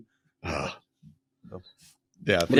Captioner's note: groans